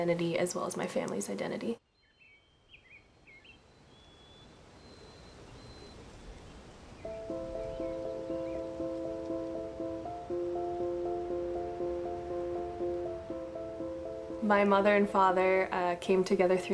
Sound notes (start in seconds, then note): 2.6 birds chirping; 7.1 gentle music